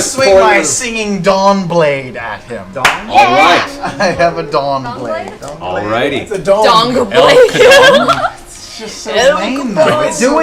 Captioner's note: laughs